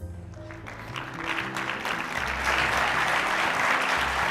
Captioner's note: applause